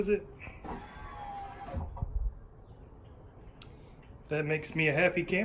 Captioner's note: motor whirring